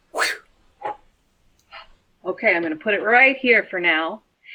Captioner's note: makes throwing sound; makes catching sound